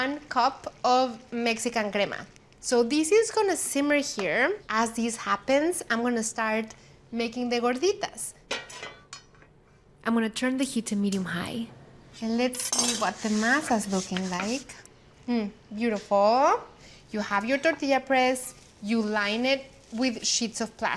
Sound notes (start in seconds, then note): 7.8 clanks